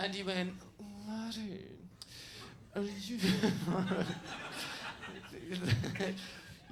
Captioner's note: laughing